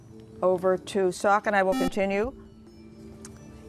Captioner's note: buzzer